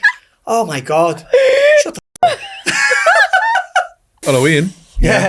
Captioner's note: audio blurs